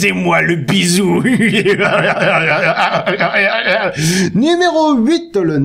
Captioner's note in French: rire dérangeant et dérangé